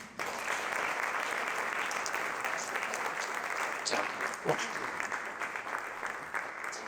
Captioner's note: applause